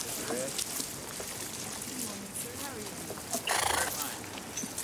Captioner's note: people chattering